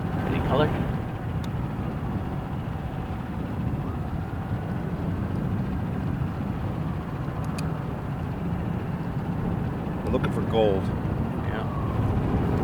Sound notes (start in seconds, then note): 2.2 sirens blaring